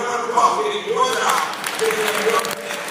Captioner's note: applause